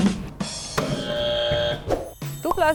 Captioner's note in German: Buzzer falsch